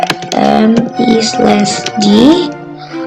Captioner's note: typing